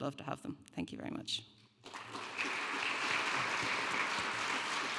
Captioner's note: audience applauding